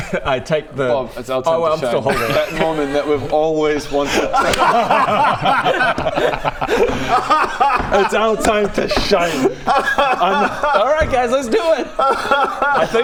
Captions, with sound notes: I take the Bob, it's our time to shine oh I'm still holding that moment that we've always wanted *enthusiastic laughter* It's our time to shine! Alright guys let's do it *cry-laughs*